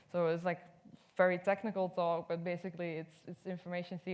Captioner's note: none